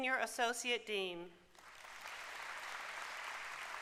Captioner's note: applause